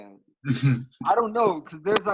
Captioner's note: laughs